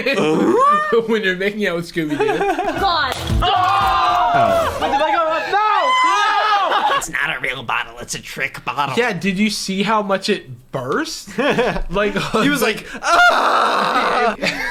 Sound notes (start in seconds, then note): 0.3 growling sounds; 3.9 yelling; 13.8 laughter